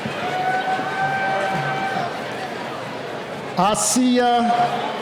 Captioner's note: cheering